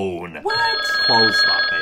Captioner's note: phone ringing